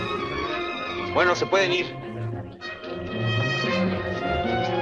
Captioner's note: officer speaks Spanish